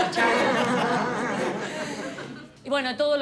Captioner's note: laughs